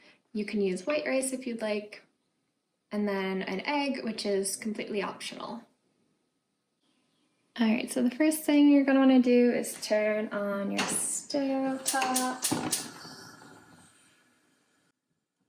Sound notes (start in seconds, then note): 11.7 ignitor clicking; 13.1 gas flame